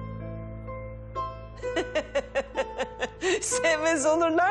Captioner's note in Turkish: Kahkaha atar